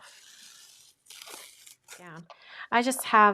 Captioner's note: tape swishing